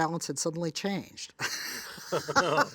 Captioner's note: laughs